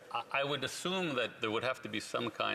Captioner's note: speaking French